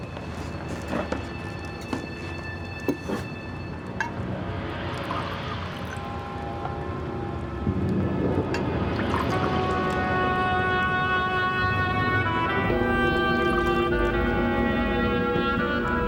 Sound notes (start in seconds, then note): 4.7 wine sloshing; 7.5 dramatic music